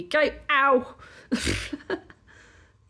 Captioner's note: laughing